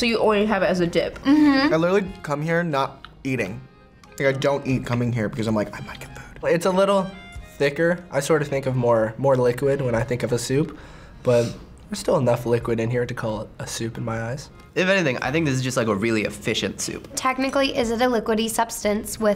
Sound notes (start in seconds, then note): 5.9 whispers